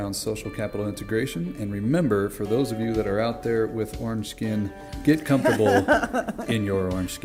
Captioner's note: laughter